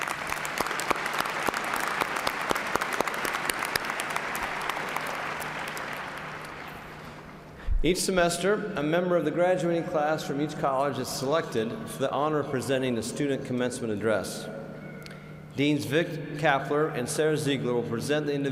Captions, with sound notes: MEMBERS OF OUR BOARD OF REGENTS AND EXPRESSING TO THEM OUR APPRECIATION FOR THEIR DEDICATED SERVICE. [ APPLAUSE ] EACH SEMESTER, A MEMBER OF THE GRADUATING CLASS FROM EACH COLLEGE IS SELECTED FOR THE HONOR OF PRESENTING A STUDENT